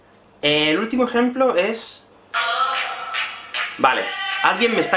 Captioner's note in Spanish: ringtone